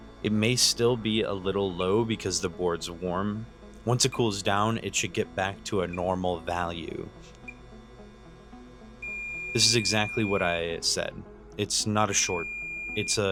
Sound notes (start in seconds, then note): 7.1 short beeps; 9.0 long beep